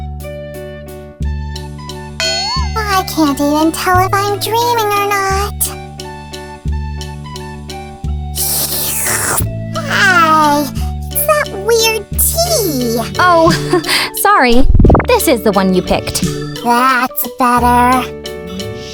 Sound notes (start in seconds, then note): 8.4 slurping